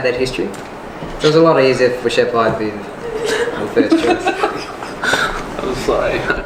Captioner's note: all laugh